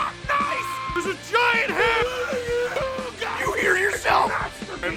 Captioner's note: screaming; Harry potter screaming